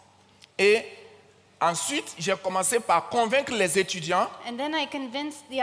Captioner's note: continues in French